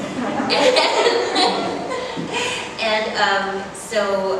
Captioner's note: laughs